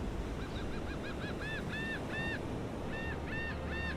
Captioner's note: birds cawing